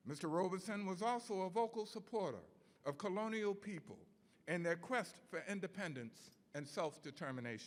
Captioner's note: none